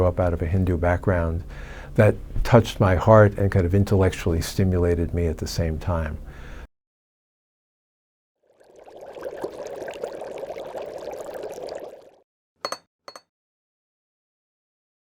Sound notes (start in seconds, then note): 8.4 bubbling; 12.6 clinking